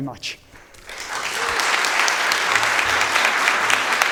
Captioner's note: audience applauding